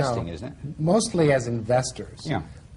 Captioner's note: laughter